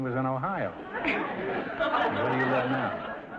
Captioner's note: audience laughter